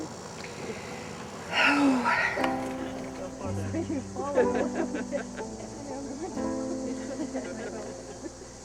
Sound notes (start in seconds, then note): 0.4 exhaling deeply; 1.5 light music; 3.7 background chattering